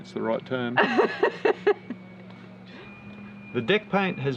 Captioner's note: laughs